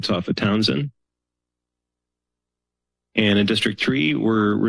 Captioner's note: pause